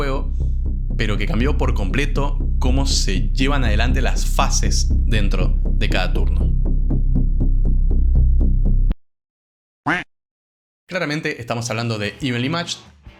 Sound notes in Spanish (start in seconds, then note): 0.0 Suena música de suspenso; 4.7 Se incrementa la música de suspenso; 9.8 quack